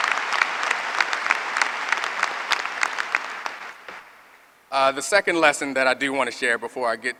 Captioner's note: applause